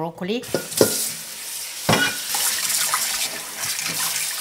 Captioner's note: water running